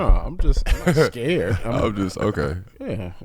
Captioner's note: laughs